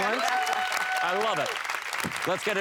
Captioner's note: applause